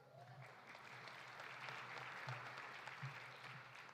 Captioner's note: audience applauding